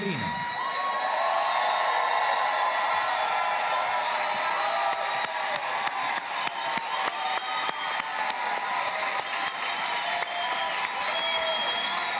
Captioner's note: applause